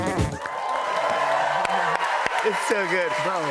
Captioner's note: cheers and applause